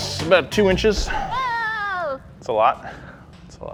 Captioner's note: comical screaming sound effect